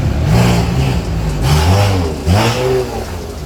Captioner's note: engine roaring